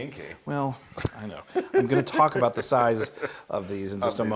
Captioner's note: laugh